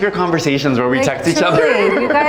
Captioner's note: laughs